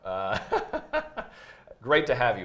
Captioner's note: laughs